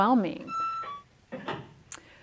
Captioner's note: electronic beep